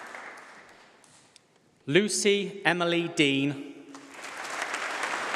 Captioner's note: applause